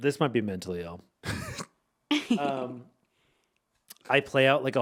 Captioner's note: laughing